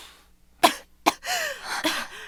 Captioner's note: coughing